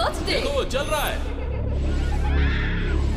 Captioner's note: laughs